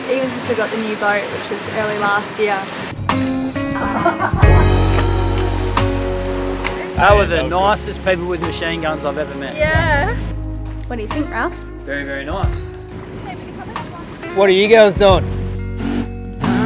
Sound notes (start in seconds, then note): 3.7 laughs